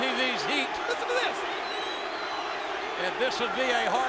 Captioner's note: crowd chanting